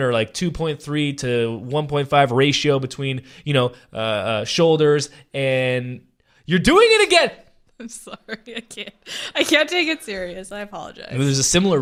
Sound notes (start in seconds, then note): 7.8 laughing